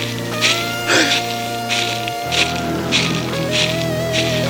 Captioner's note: gasps